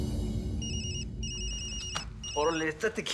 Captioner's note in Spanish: suena el celular